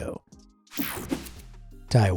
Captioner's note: swoshing